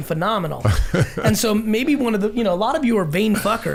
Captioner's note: laughing